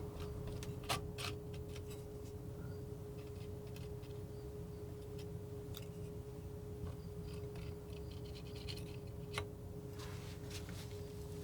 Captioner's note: scraping